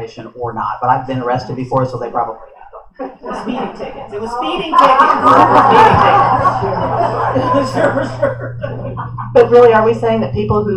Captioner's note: laughter